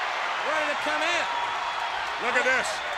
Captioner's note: audience cheers